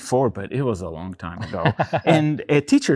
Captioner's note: laughs